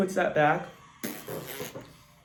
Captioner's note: lip bubbles